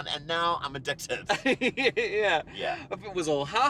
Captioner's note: laughing